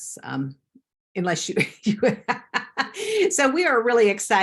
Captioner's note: laughs